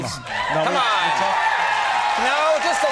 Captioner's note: crowd cheering